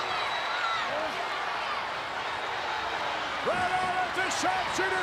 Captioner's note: crowd shouting